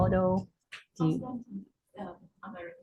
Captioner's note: radio interference drowns out speaker